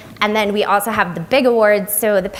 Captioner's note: none